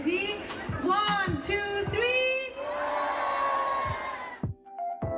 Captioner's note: people screaming